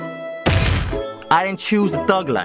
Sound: splat

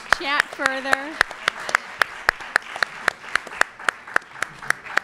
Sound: clapping

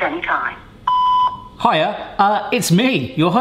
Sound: beeping

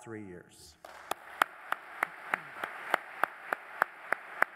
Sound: applause

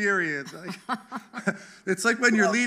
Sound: chuckling

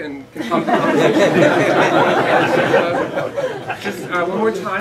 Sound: laughter

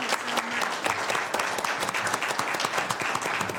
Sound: applause

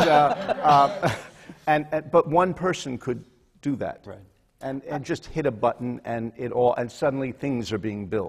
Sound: laughter

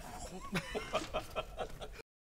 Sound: laughter

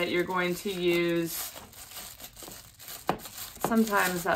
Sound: bag crinkling

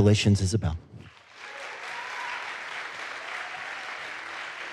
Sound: audience applauds

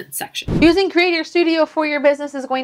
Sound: whooshing

